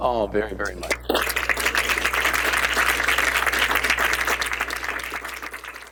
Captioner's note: applause